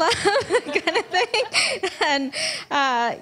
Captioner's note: laughs